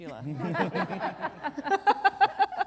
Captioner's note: laughter